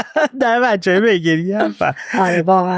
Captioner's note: laughs